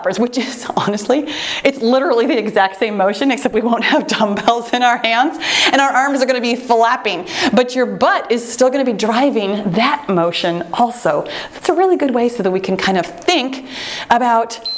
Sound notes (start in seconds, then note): 3.4 laughs